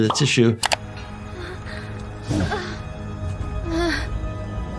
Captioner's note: Atom Eve panting